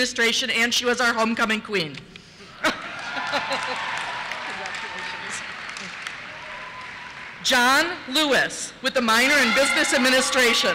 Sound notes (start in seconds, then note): 2.6 laughter; 2.7 cheers